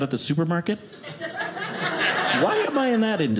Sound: audience laughing

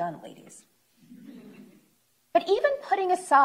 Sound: chuckling

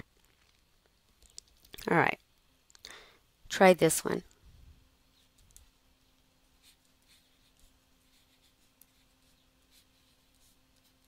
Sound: pause

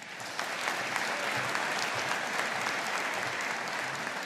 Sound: audience applauding

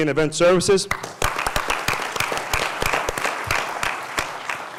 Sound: applause

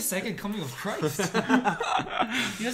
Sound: laughs

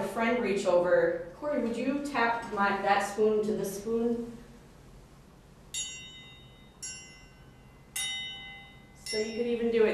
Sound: spoon chiming

